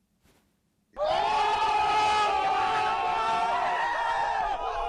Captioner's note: crowd cheering